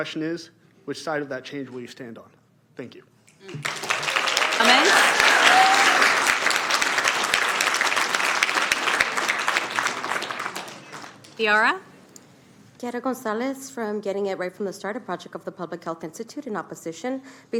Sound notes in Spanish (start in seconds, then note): 6.3 Aplausos